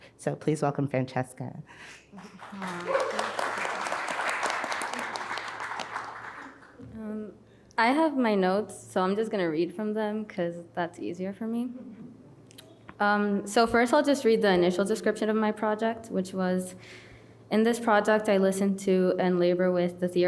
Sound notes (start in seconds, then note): 2.1 audience clapping